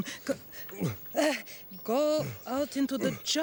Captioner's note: grunting noise